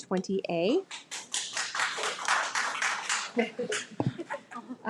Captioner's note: audience applauding